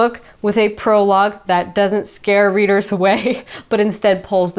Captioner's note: chuckles